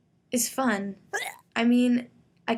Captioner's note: retching